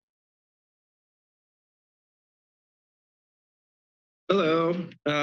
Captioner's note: silence